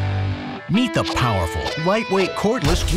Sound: voiceover

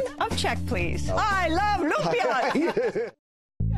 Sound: laughs

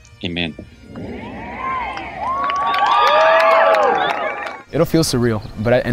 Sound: cheers

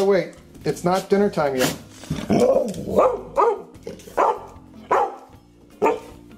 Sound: growling and barking

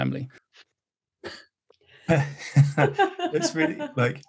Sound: all laughing

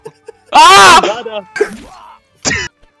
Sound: screaming

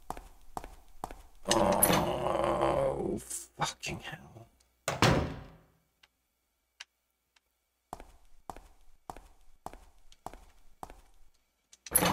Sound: regret noises

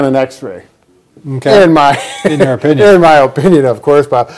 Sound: laughing

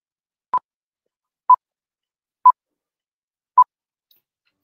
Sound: beeping sound

